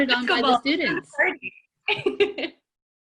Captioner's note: laughing